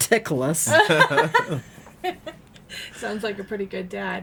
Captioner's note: laughing